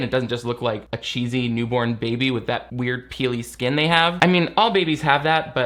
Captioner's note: none